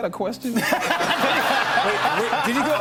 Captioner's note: laughter